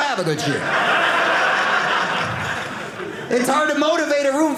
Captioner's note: audience laughing